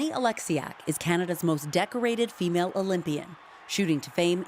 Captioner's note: cheers and Applause